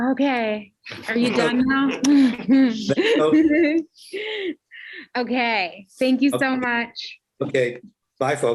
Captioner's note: laughter